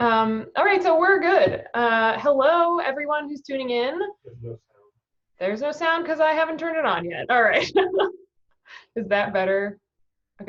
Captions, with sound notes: All right, so we're good. Hello everyone who's tuning in. There's no sound cause I haven't turned it on yet. All right. (laughing) Is that better?